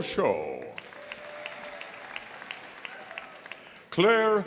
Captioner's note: audience applauding; audience cheering